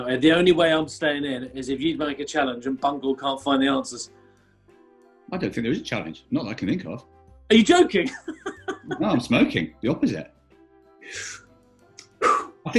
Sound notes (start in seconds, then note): 8.0 laughing; 11.0 inhales and exhales "smoke"